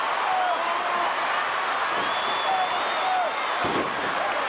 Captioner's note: crowd cheering